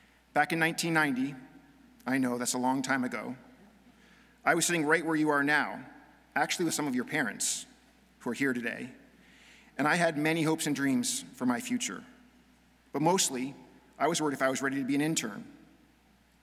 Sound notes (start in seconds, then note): none